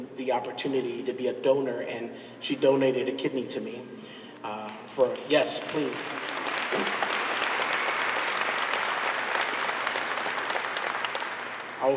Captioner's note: applause